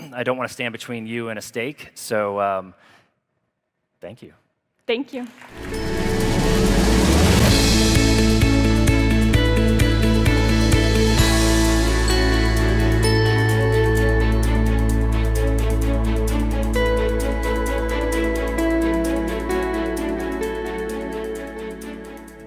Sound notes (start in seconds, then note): 5.4 crowd applauds; 5.8 upbeat music